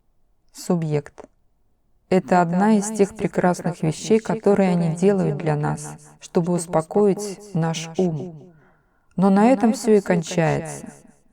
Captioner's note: then with a deep sigh